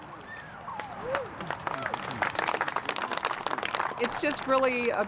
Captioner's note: applause